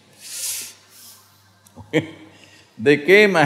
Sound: laughs

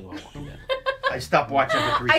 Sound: laughs

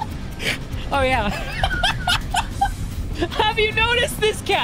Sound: laughter

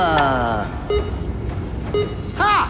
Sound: laughs; timer beeps

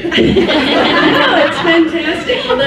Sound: laughs

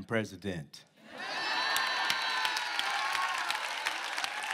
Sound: cheering

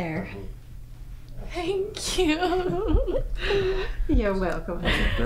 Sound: giggles

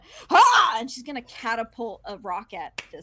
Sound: yells

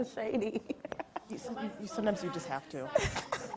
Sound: laughing

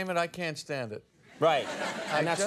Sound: audience laughs

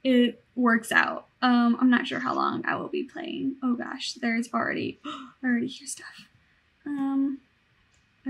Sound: gasp

